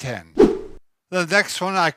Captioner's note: whip sound